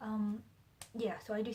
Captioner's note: claps hands